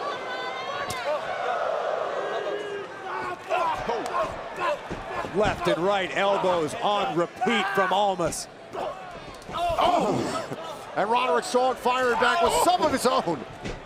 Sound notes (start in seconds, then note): 11.0 crowd cheering